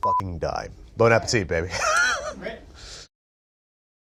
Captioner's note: laughs